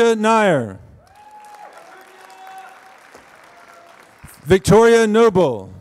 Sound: applause

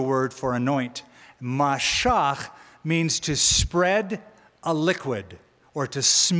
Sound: hebrew

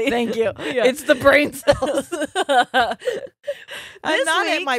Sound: both laughing

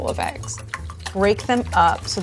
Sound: whisking eggs

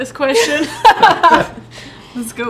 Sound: all laugh

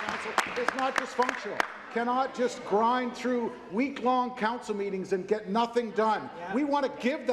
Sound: applause

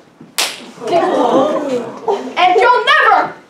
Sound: sound of Slap

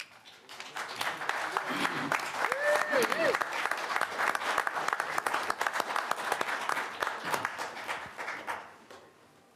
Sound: applause

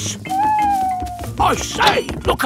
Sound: owl hooting

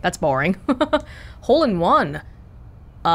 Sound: chuckles

